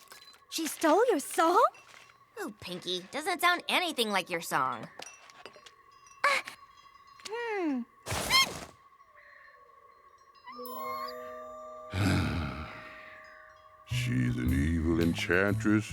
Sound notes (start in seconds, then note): 5.4 gasps; 9.9 whimpers; 11.8 sighs